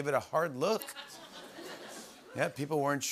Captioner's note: laughter